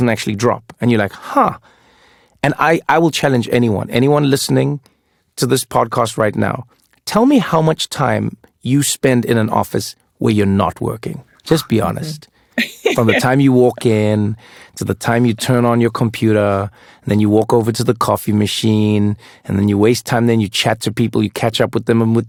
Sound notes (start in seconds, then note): 12.6 laugh